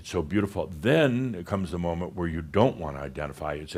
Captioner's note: none